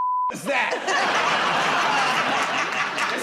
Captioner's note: laughter